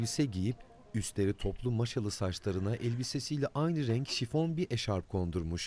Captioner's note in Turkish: Gramofon çalıştırma sesi